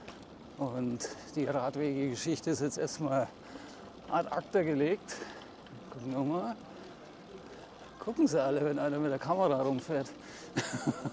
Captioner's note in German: gelächter